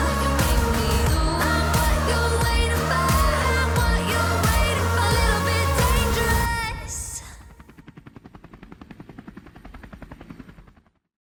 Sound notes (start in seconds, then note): 7.3 helicopter whirs